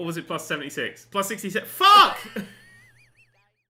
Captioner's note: laughs